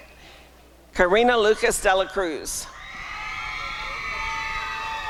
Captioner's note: applause and cheering